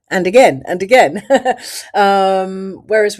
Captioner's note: laughs